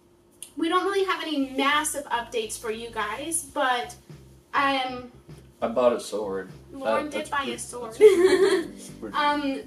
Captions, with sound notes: we don't really have any massive updates for you guys. But... - I bought a sword. - Loren did buy a sword. (laughs)